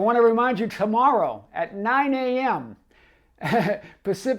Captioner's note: chuckles